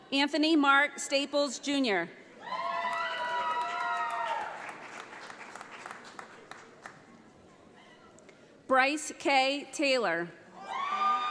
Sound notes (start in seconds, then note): 2.8 audience applauds